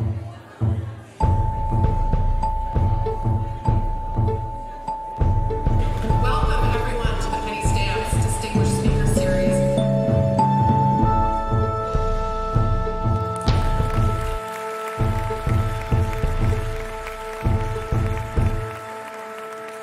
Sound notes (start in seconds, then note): 5.7 audience applauding; 6.8 bright anticipatory music